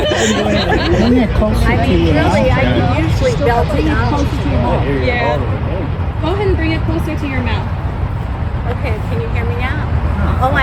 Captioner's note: laughter